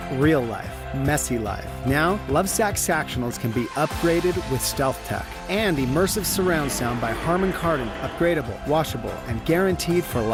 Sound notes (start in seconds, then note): none